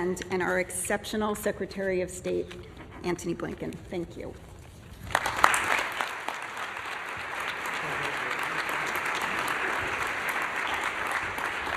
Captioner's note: applause